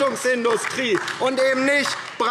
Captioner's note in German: Beifall DIE LINKE